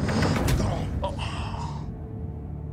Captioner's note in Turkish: İnliyor